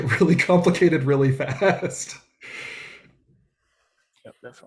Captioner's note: laughs